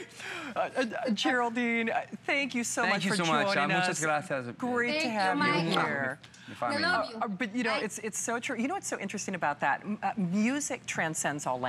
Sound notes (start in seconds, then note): 5.7 foreign language